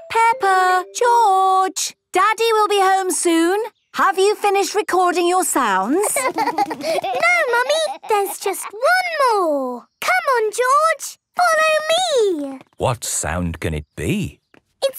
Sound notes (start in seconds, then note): 5.9 laughter